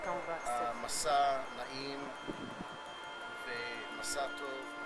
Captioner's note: speaking hebrew